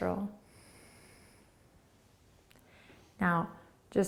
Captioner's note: exhaling